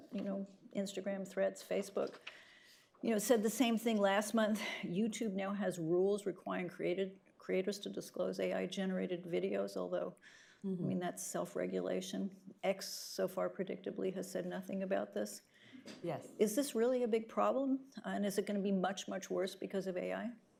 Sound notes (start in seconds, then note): none